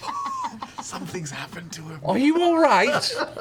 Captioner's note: whispering